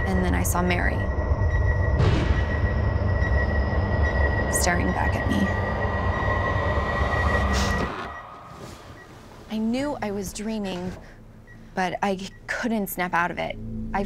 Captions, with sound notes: And then I saw Mary-- [beeping] [ominous music] --staring back at me. [beeping] I knew I was dreaming, but I couldn't snap out of it.